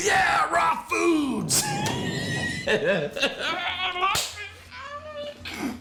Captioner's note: laughs